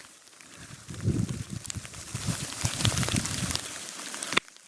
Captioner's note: water running